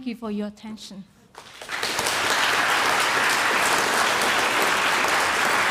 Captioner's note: audience applauding